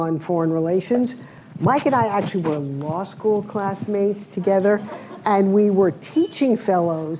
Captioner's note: laughter